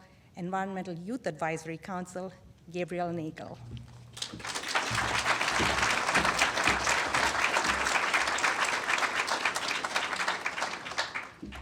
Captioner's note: applause